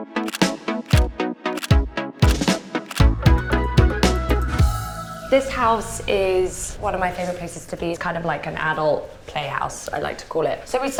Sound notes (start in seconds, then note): 0.2 camera clicking